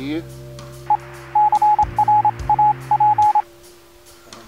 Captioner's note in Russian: азбука морзе